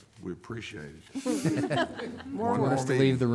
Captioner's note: board laughing